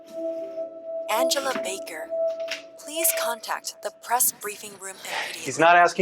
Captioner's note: female, over P.A